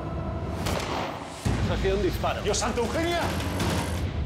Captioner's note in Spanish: Disparo